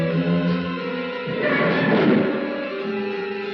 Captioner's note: door screeches